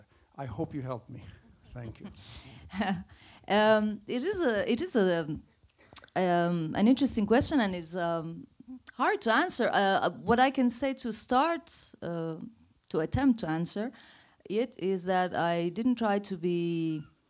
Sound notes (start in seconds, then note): 1.7 laughs